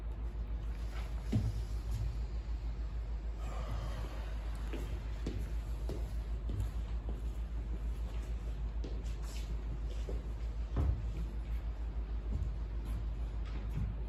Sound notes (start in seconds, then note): 3.2 exhale; 3.3 inhale